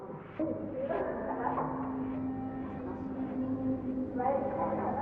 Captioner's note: family talking